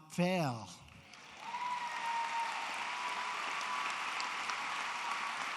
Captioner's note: applause